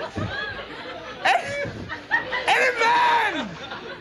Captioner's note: audience laughing; laughing; stammers